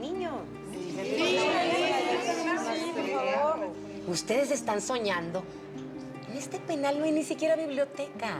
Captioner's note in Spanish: Todas comentan al unísono